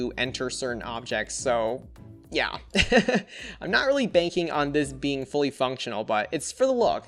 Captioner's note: laughs